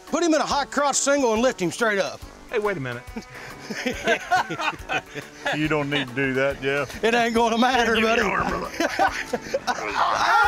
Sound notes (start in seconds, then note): 3.6 laughing